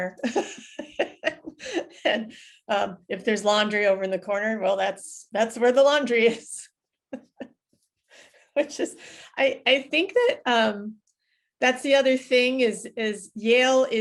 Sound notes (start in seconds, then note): 0.0 laughs; 7.0 laughs